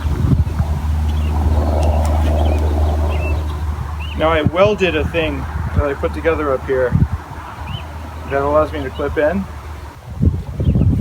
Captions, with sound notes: (helicopter flies by) Now I welded a thing that I put together up here that allows me to clip in.